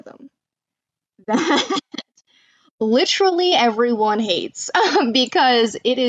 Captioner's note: laughs